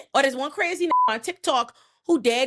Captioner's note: beep